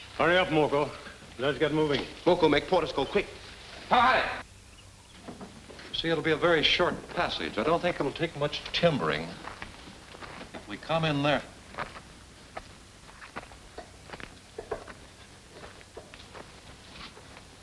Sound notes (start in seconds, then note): 4.0 shouting; 11.7 soft footsteps